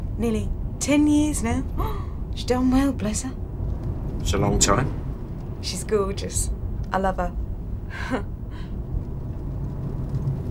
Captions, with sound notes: Nearly — ten years now. She done well, bless her. It's a long time. She's gorgeous. I love her. [laughs]